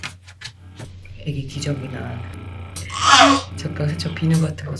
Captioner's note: pumping